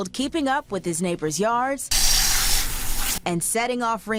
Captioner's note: hose hissing